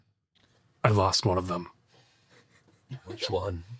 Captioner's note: laughing